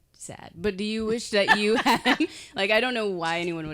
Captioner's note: laughing